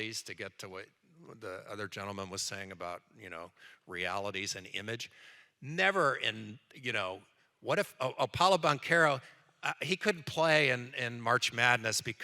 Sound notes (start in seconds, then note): none